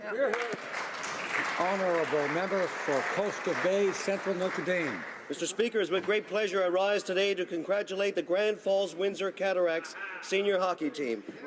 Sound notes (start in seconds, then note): 4.6 some Applause